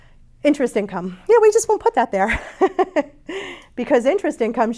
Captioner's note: chuckles